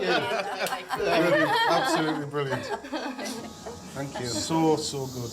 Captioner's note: laughter